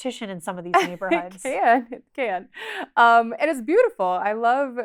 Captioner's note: chuckles